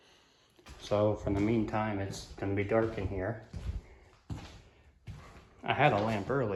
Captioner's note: footsteps